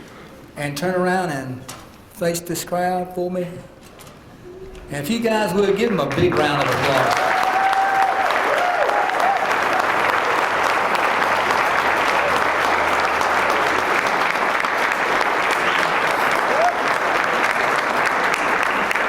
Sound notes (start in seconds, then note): 5.7 applause